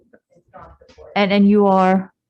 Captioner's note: mumbling